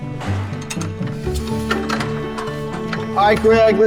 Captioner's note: clicking